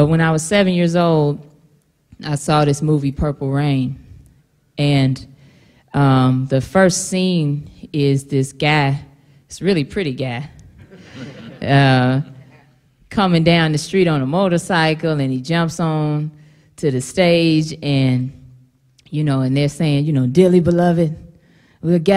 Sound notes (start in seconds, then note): 10.8 laughter